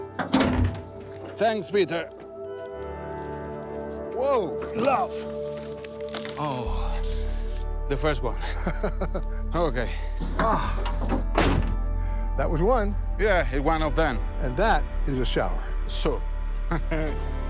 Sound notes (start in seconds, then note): 6.7 deep sigh; 8.5 chuckles